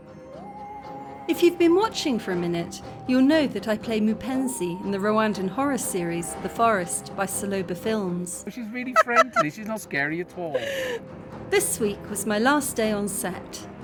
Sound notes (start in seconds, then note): 0.1 spooky music; 8.9 laughing